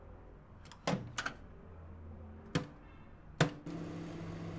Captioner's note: microwave door thuds